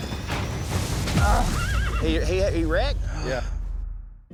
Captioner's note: groan, horse neighs